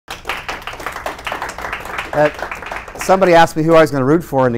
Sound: applause

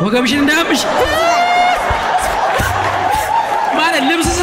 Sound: laughter

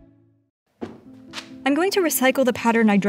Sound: soft thudding

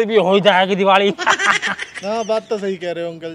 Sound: laughs

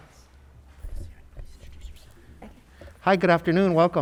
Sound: woman murmuring quietly

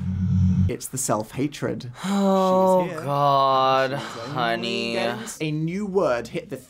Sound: sighs

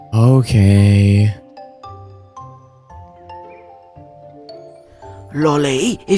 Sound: sigh

